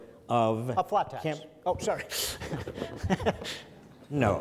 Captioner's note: laughs